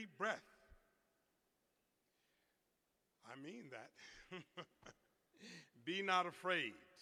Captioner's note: laughter